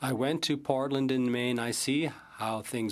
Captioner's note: speaking French